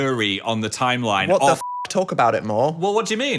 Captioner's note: beeping